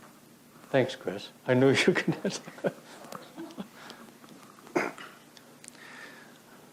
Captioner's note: laughter